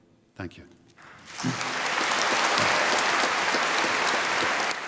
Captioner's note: applause